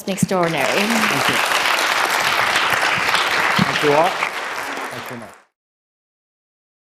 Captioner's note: applause